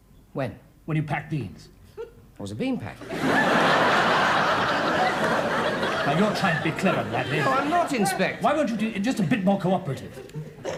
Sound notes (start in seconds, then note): 3.0 audience laughs